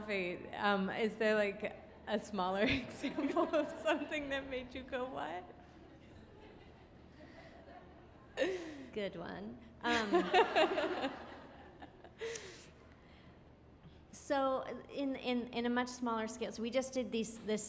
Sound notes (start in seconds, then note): 4.5 audience laughs; 9.9 audience laughs